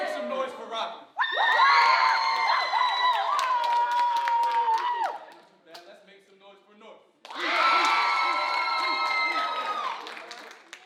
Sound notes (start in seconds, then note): 1.2 audience screaming; 7.4 audience screaming